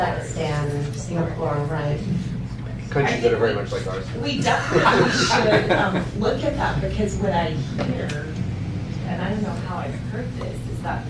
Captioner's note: laughter